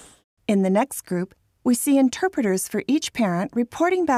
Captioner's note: voiceover